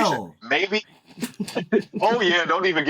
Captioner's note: laughing